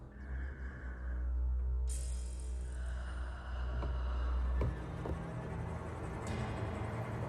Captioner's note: deep inhale and exhale